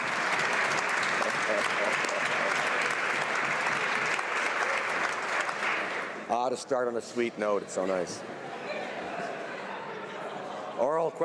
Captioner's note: applause